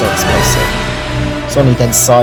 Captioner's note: explosion